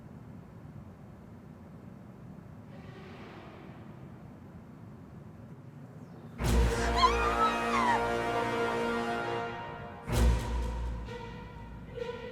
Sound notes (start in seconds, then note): 2.8 eerie music; 6.4 sinister music; 6.6 Mischa screaming